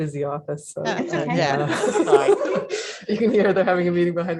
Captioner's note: laughing in background